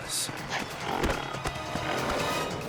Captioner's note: bull growls